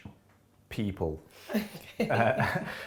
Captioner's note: laughing